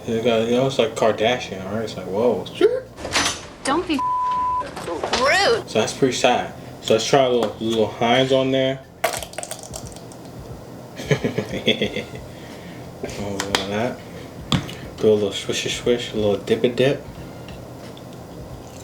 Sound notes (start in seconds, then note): 9.0 bottle squirts; 10.9 laughs